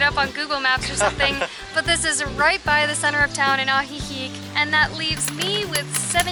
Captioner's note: laughter